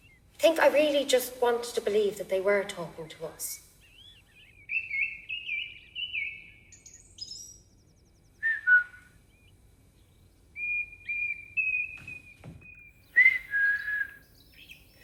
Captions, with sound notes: I think I really just wanted to believe that they were talking to us. (CHIRPING) (SHE WHISTLES) (CHIRPING) (WHISTLES)